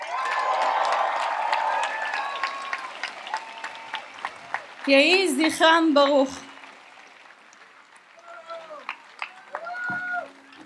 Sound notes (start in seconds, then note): 0.1 audience applauds and cheers; 5.5 speaks in Hebrew